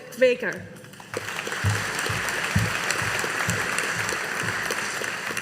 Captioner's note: audience applauding